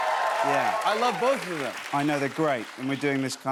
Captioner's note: cheers and applause